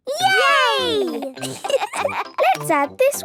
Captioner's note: laughter